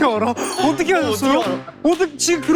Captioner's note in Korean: 웅성웅성웅성웅성